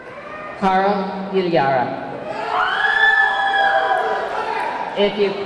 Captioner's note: audience clamoring